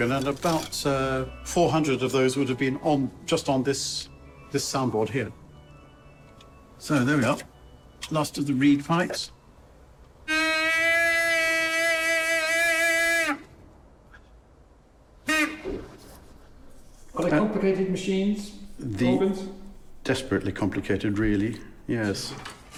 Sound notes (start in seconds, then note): 10.6 pipe groaning; 15.2 pipe toots